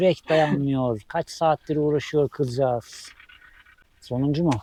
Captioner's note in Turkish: homurdanır